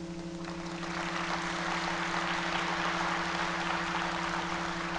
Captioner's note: audience applauding